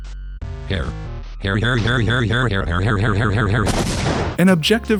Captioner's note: explosion